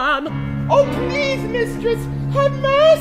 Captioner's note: client in falsetto